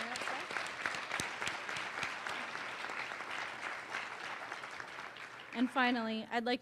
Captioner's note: applause